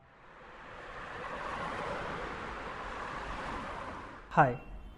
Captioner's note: traffic moving